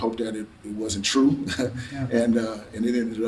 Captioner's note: laughs to self